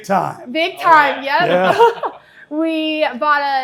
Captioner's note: laughs